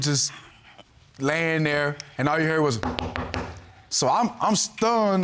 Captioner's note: knocks on table